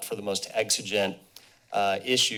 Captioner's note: none